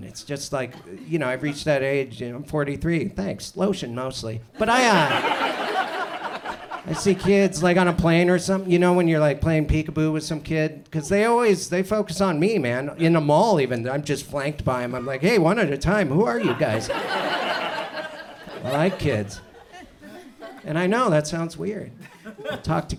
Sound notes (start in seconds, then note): 4.6 audience laughs; 16.3 audience laughs